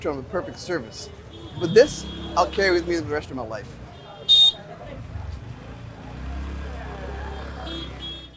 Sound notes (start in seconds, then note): 3.6 vehicles hooting